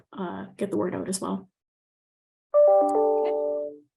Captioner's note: computer Tone